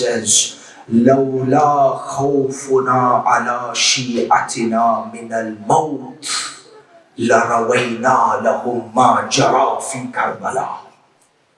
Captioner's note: Arabic